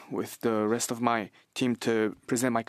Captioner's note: speaking French